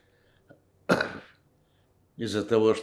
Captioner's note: coughing